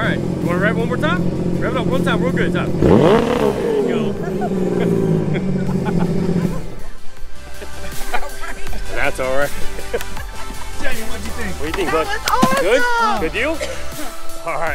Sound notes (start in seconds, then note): 2.8 engine revs; 6.8 laughs